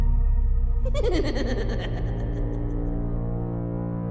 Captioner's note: person cackling